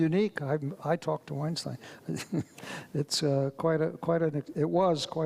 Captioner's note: chuckles